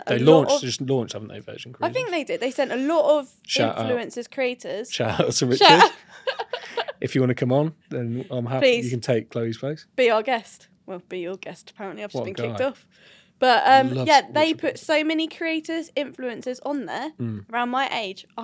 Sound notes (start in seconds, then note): 5.1 both laugh